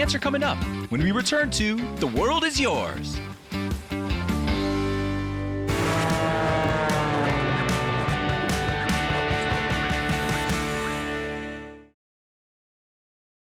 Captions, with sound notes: The answer coming up when we return to "The World is Yours." (upbeat music) (plane engine)